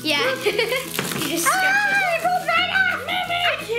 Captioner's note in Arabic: الصراخ